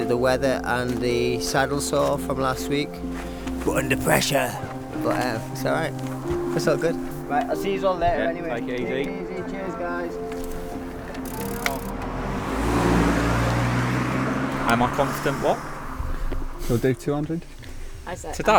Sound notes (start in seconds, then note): 10.7 car engine roars